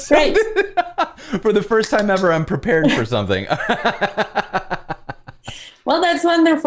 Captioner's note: laughter